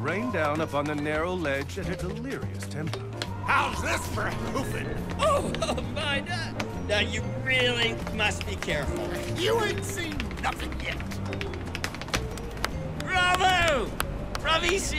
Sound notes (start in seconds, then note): 10.8 shoes clicking faster